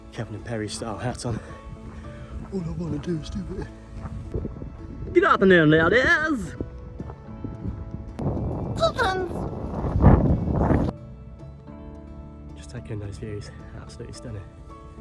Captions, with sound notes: Kevin and Perry style hat on 'All I wanna do is do it' (Over the top posh voice) Good afternoon ladies (Silly voice) CHICKENS!!! just taking in those views absolutely stunning